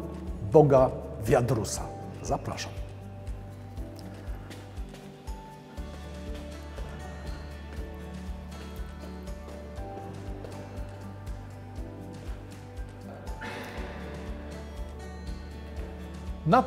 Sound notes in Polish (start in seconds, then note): 3.1 muzyka, odgłos kroków na schodach